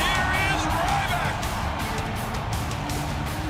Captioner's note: crowd cheering